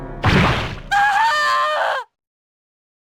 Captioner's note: screaming